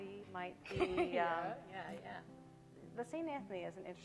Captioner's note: laughing